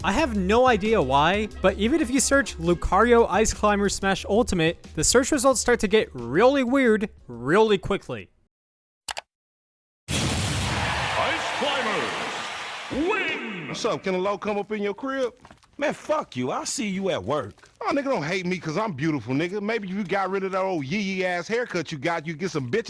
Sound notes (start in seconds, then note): 9.1 click